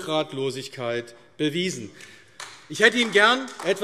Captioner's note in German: Beifall AfD